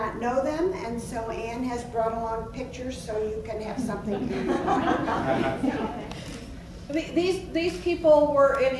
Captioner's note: laughs